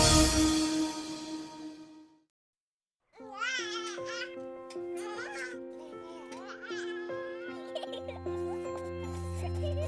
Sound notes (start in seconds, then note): 3.2 baby cooing; 7.4 giggling